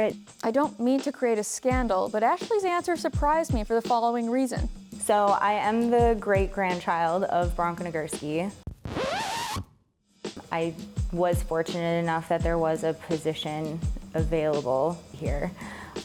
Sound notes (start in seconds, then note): 8.6 record scratches